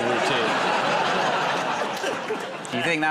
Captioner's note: laughter